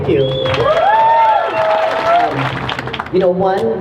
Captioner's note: crowd cheering